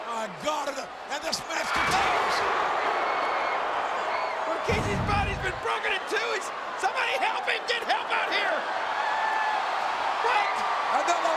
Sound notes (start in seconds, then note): 8.8 audience cheering